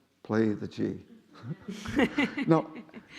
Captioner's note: laughing